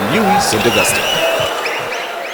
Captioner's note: wild applause and cheering for 22 seconds